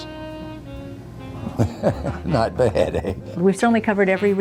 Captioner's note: chuckles